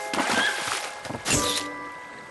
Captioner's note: snap